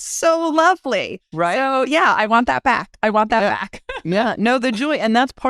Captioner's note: laugh